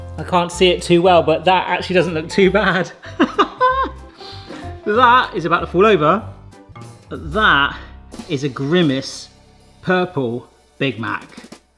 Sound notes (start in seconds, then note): 3.0 laughs